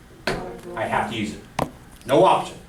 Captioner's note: voiceover